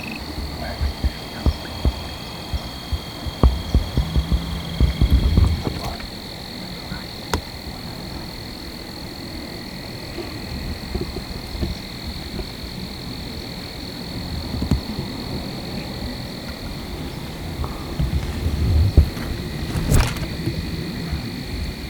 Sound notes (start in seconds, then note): 9.1 frogs / insects